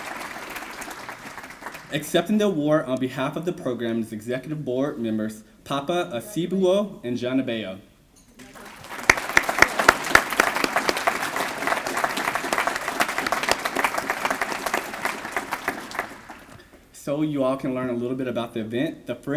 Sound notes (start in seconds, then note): 8.6 applause